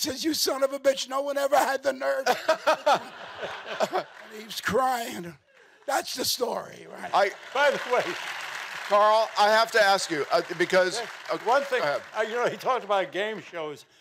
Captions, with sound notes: We got to the middle of the stage, he hugs me, he says, "You son of a bitch, -no one ever had the nerve." -(LAUGHING CONTINUES) And he was crying, and that's the story. Wait, wait. Carl, I have to ask you because--